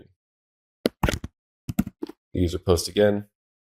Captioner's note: keyboard typing